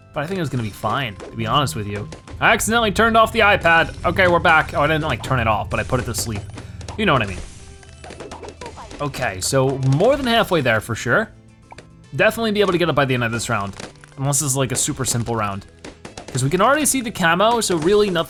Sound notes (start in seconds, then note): 7.8 balloons popping